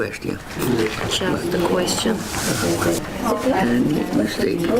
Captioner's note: students writing and talking in their groups